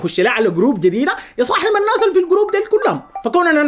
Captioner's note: his phone rings